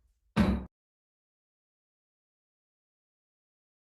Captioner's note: gavel slamming